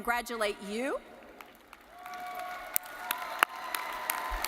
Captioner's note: audience cheering